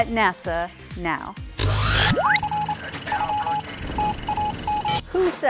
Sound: sound Effects

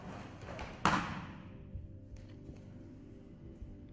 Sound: body slams

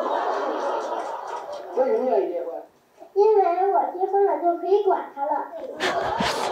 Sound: laughing

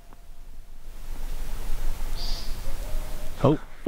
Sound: whoops in the distance

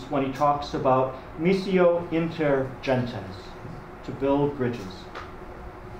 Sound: speaking a foreign language

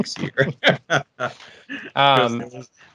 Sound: all laughing

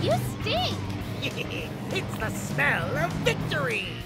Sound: Gunkster giggles

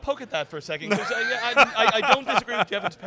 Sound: laughing

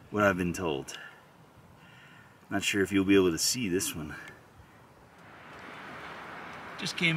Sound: wind noise

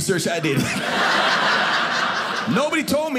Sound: audience laughing

